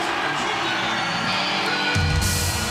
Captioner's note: bell ringing